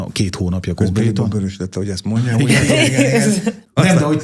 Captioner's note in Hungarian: nevetés